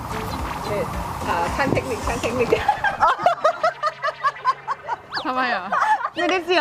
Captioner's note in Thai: เสียงหัวเราะ